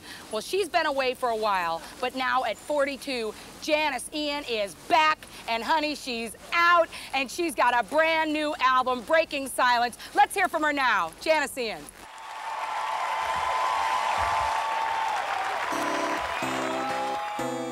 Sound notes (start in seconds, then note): 12.0 crowd cheers; 17.2 guitar plays